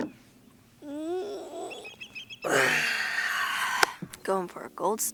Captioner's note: groans, exhales sharply